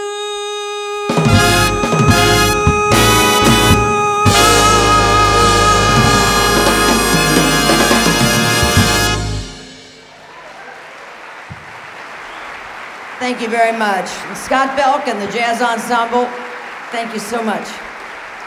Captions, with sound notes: >> [APPLAUSE] >> Thank you very much. Scott Belck and the Jazz Ensemble, thank you so much.